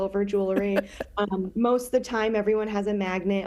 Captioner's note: laughing